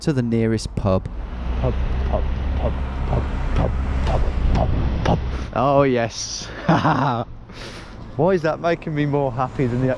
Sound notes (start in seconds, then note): 6.4 laughs